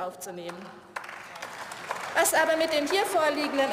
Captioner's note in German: Beifall